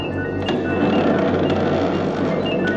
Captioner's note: creaking